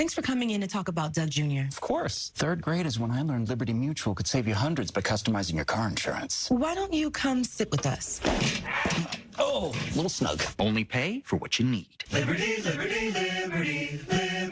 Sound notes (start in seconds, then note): 8.1 slamming table; 8.4 LiMu squawks